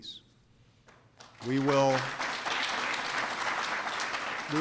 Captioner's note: applause